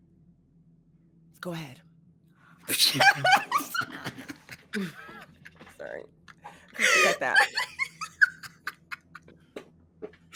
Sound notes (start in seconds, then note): 2.7 laughing